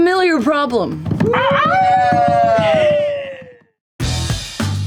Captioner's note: cheering